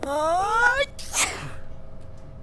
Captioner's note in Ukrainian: чхає